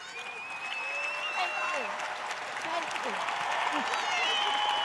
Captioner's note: cheers and applause